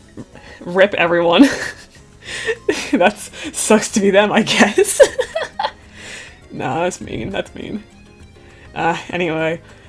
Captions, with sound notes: RIP everyone. That's— Sucks to be them, I guess. *laughs* Nah, that's mean, that's mean... 〒▽〒